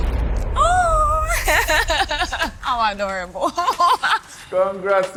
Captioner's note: laughs